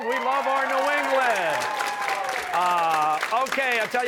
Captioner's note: cheers and applause